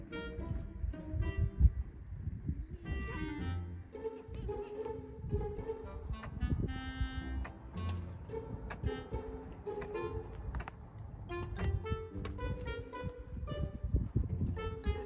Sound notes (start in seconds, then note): 2.8 scratching